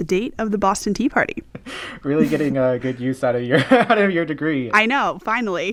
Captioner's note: laughter